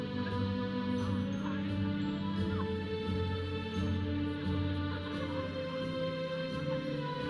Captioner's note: audience chattering; processional music